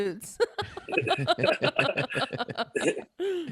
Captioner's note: laughter